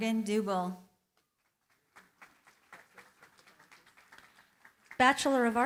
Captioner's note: cheering, applause